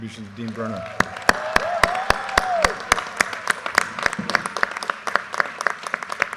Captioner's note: audience cheers and applause